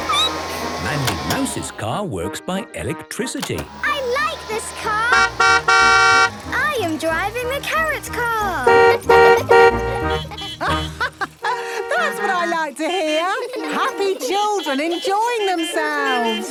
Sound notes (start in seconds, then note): 5.0 honking; 8.4 honking; 9.1 horns honking; 10.2 laughing; 15.7 laughter